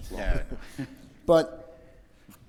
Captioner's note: men laughing